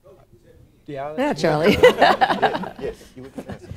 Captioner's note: laughter